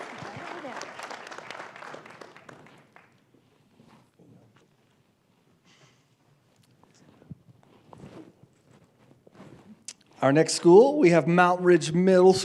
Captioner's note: applause